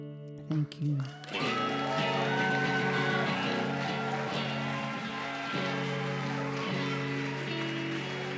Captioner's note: applause